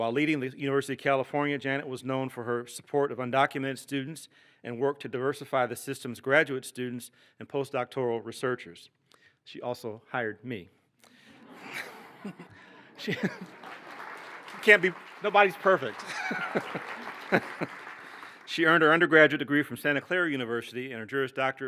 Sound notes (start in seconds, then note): 11.3 laughter; 12.9 applause; 15.9 laughs; 16.8 applause